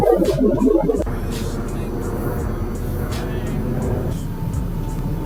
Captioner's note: alien sounding language